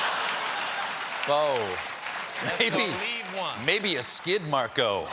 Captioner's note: laughter